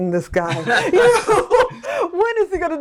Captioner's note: laughs